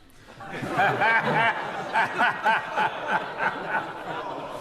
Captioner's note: members laugh